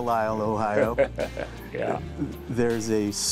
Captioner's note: chuckling